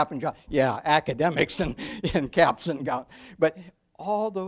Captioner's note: laughs